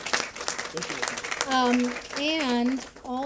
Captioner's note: applause